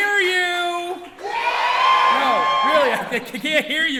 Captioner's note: audience cheering